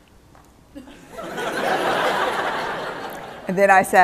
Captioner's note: laughter